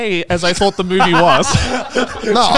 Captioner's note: all laughing